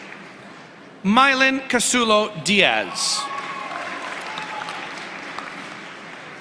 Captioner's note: applause